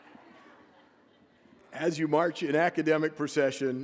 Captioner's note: laughter